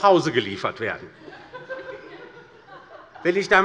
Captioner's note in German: Heiterkeit bei der LINKEN sowie bei Abgeordneten der SPD